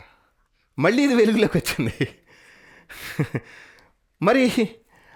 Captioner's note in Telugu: నవ్వు